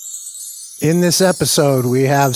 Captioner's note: chimes